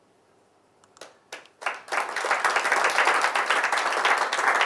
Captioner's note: audience applauds